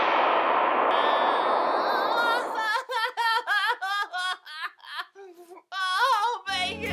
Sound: crying

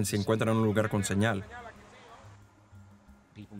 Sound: man speaking foreign language

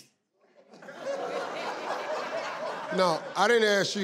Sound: audience laughs

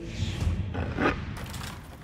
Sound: scratching; fluttering

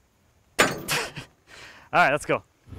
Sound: thunk, laughing

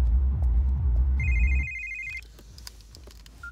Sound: cell phone rings

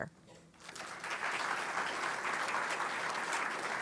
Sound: applause

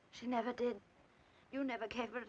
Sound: none

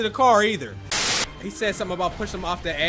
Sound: static

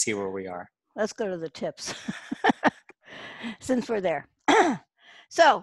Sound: laughs

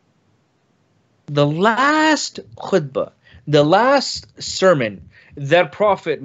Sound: speaks in foreign language

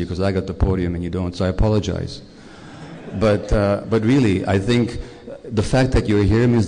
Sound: laughter

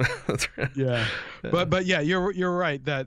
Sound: chuckle

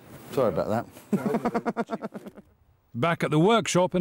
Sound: laughter

